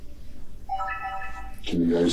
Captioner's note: camera chimes off